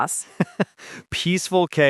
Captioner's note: laughs